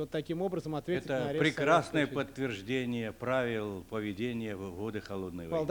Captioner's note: non-english speech; non-english speech